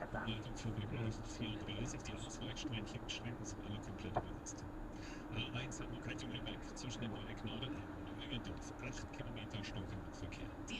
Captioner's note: traffic information in German